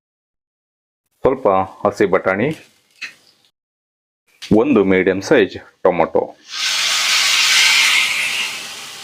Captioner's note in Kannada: ಬುಸುಗುಟ್ಟುವಿಕೆ